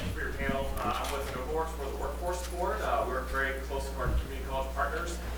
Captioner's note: faintly speaking